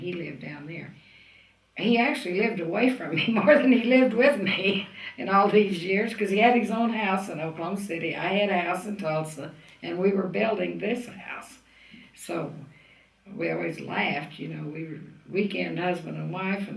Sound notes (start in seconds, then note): 5.4 laughs